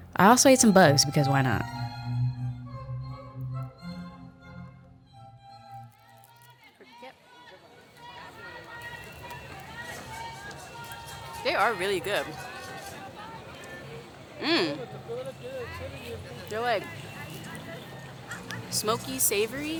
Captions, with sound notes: I also ate some bugs, because why not? (soft classical music continues) (street vendors calling) They are really good. Mm, they're like smokey, savory.